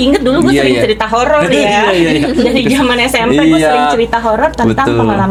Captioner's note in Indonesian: tertawa